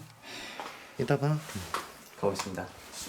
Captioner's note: kind voice